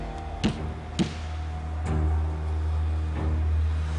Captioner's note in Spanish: Golpes